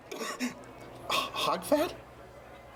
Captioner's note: coughs